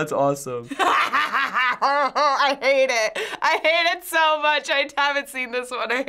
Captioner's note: laughs